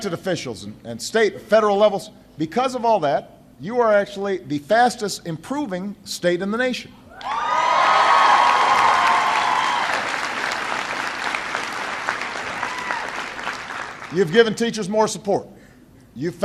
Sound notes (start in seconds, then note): 12.3 applause